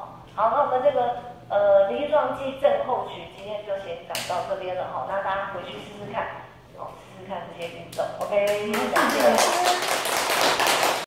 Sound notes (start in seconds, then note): 8.5 applause